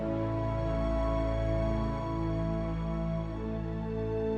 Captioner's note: none